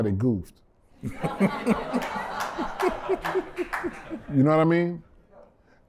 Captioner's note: laughter